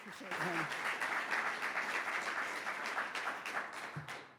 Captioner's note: audience applauds